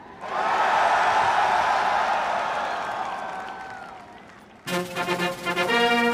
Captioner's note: cheers and Applause